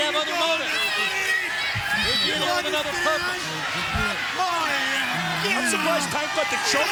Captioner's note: Tank yelling